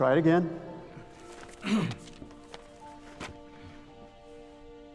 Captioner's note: clearing throat